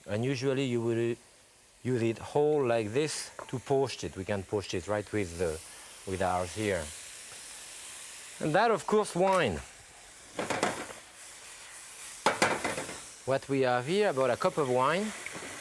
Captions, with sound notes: And usually, you will use it whole like this to poach it. We can poach it right with ours, here. And then of course, wine. (food sizzling) (pan clatters) What we have here, about a cup of wine,